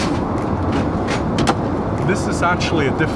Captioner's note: door clicking shut